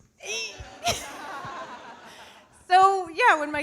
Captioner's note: audience laughing